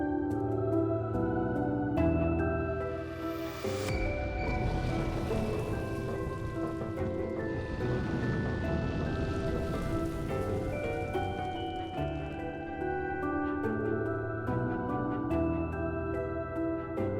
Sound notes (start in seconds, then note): 5.3 flames rumbling